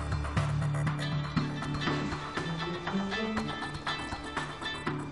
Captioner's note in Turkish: Telefon çalıyor